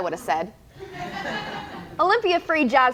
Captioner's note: audience laughs